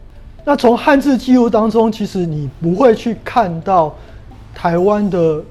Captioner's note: chinese words